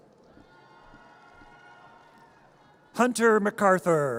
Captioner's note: audience cheers